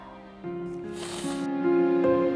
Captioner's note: mother sniffs